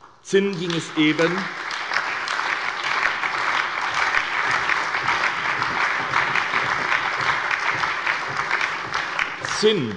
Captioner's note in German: Allgemeiner Beifall